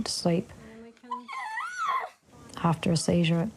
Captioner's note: shrieks